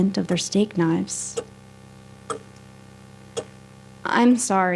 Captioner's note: continous ticking